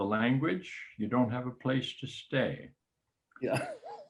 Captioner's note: laughs